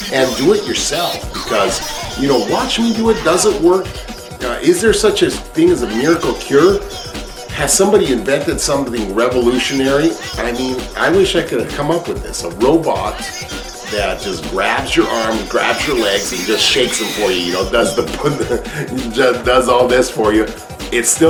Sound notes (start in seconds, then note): 6.4 background music; 18.3 laughing